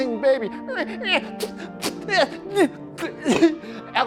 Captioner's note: imitates baby crying